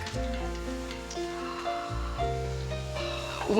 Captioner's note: gasps